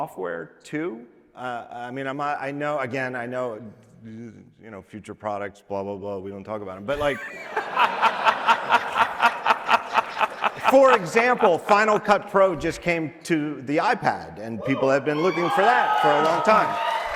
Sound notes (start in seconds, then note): 6.9 audience laughing